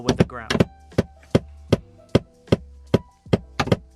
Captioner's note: hammer thudding